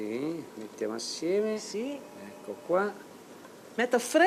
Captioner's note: speaking Italian